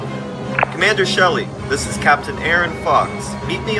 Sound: intercom sound

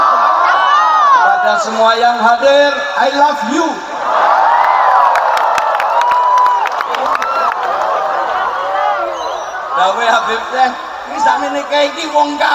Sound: applause

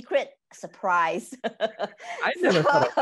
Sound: laughing

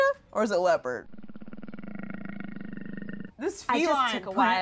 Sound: leopard growls

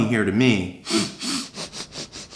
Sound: sniffs

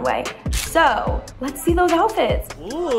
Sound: camera flash shuttering

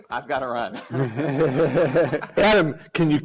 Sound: laughter

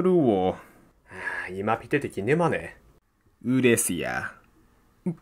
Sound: sigh

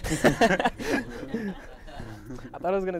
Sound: laughs

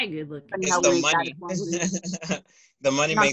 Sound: laughter

